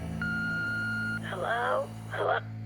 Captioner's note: voicemail beeping; on phone